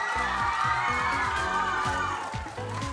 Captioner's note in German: Jubel